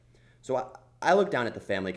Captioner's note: voiceover